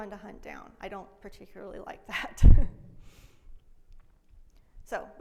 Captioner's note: laughs